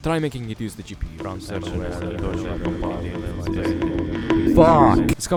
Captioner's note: stacked voices